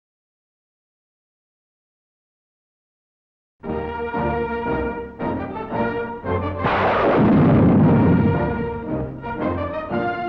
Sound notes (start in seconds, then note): 3.8 upbeat music; 6.6 gunshot